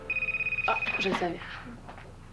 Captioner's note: Le téléphone sonne